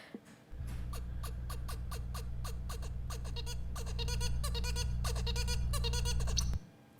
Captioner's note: bird singing